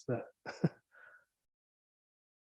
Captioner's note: chuckles